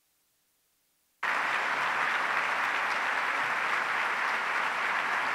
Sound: audience applauds

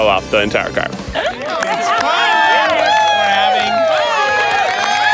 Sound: crowd cheering

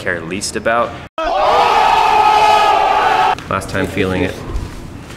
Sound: crowd yells

